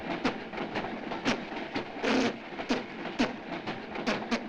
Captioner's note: keeping rhythm by blowing air through lips